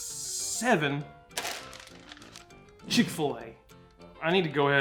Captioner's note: bag rustling